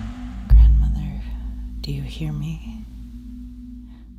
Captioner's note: whispering